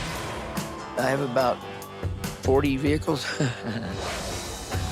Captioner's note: laughs